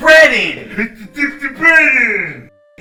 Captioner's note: mockingly